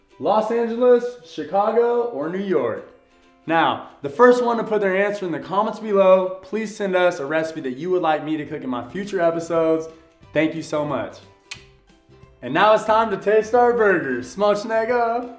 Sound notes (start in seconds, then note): 11.4 tongue clicks